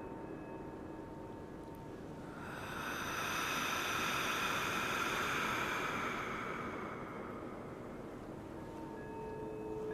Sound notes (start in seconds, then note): 2.2 deep breathing